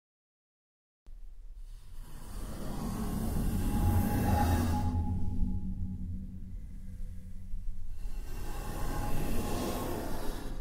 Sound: scary sound

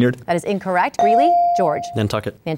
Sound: ding

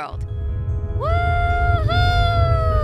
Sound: rocket taking off

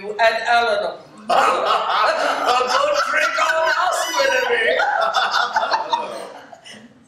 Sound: laughter

